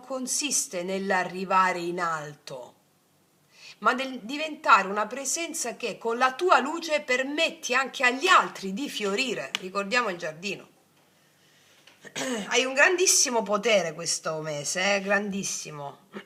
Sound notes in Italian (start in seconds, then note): 12.0 schiarire la voce